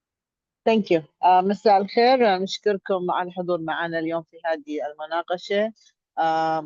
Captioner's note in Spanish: hablando en árabe